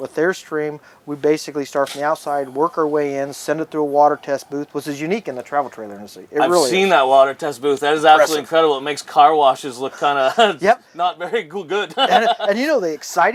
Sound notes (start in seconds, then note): 12.0 laughs